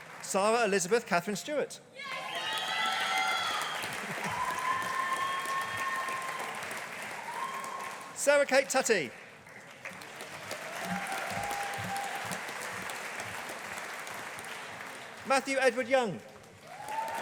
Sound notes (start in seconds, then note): 2.4 audience applauding; 10.1 audience applauding